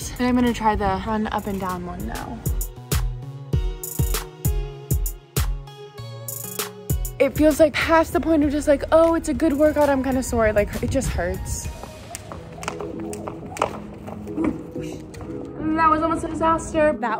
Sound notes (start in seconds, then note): 2.8 upbeat music; 11.8 rope hitting ground